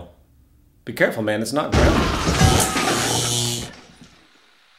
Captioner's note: explosion; Bob screaming